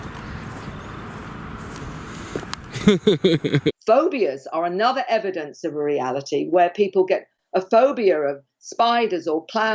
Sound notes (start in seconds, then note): 2.7 laughs